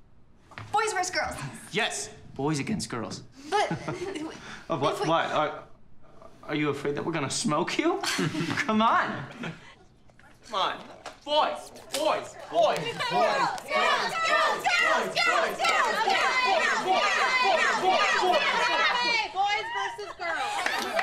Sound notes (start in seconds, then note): 5.6 laughs